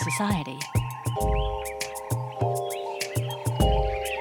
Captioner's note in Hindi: जानवरों की आवाज़ें